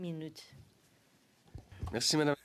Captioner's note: speaking French